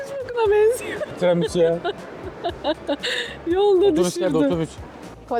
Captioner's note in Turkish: kahkaha